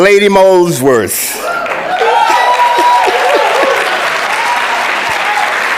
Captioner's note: audience clapping